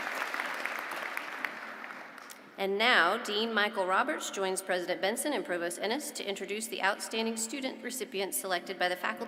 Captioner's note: applause